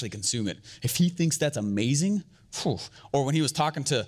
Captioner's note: exhales